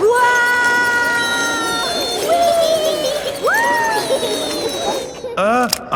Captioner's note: all yelling